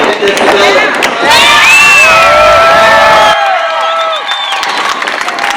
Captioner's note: cheering